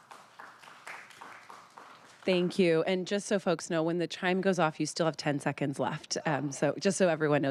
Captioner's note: applause